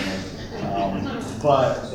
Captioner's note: laughter